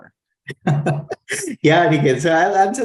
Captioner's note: laughs